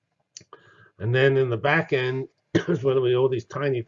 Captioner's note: cough